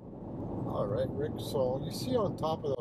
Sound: engine hums; tires rumble

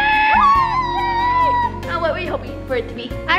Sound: squealing

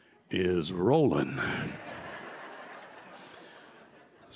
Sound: laughter

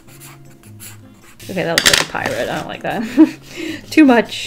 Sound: laughs

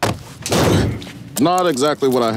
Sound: body slamming

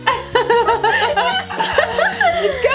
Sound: both girls giggle

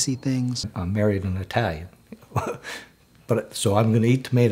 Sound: laughs

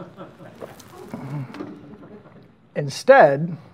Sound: audience laughing

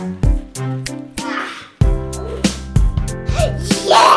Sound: groan

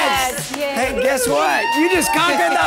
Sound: group cheering

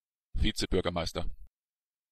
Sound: fast Pronunciation

